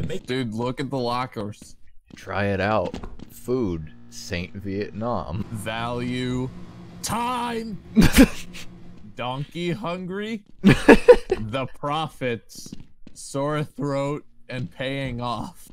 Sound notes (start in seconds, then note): 7.9 laughter